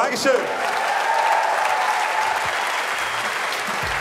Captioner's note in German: Jubel, Applaus